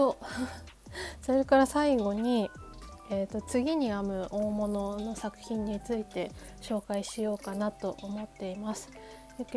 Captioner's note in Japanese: 息をのむ音